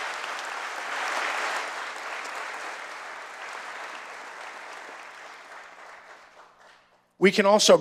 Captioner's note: applause